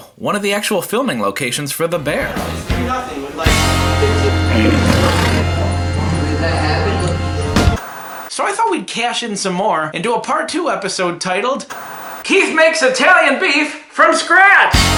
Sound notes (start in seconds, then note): 2.3 celebratory music; 4.4 lion roaring